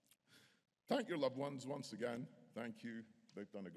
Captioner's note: none